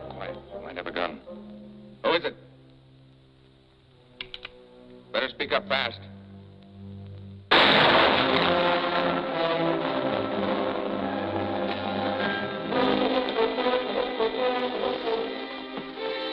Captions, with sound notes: Quiet, might have a gun. Who is it? [gun cocking] Better speak up fast. [gunshot] [suspenseful music]